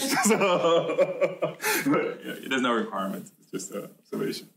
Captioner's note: laughter